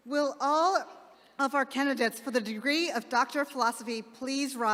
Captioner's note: none